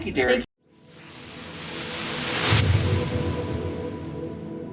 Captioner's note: whooshing